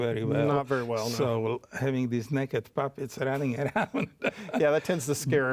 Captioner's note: laughs